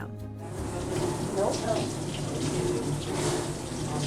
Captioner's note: water sloshing